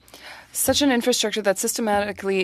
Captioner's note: speaking French